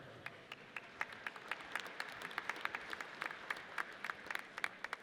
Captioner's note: audience applauds